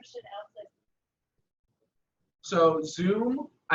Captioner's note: audience member's audio drops